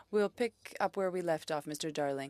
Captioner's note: speaking French